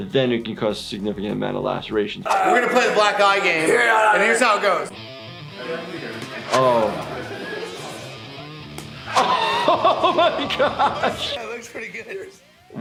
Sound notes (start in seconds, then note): 4.0 Steve-O grunting; 4.6 fast-paced rock music; 8.9 laughing